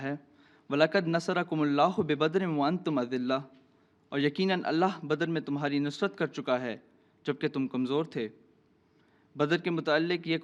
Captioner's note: Arabic